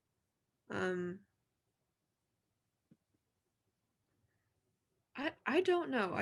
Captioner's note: silence